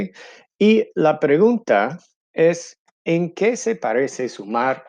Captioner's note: in foreign language